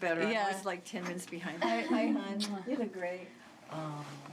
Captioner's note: kiss